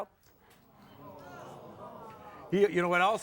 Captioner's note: audience groans